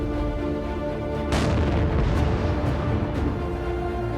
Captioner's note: loud explosion